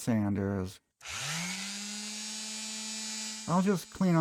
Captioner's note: sander sounds